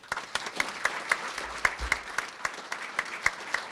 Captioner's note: crowd applauding